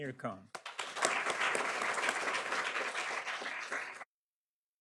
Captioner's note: audience applauds